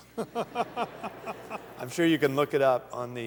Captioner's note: laughter